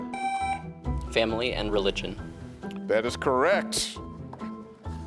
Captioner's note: tone sounds